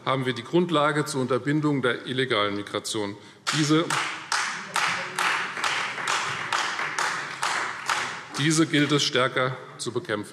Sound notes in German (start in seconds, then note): 3.4 Beifall Freie Demokraten